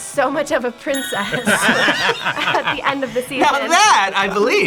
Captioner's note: both laugh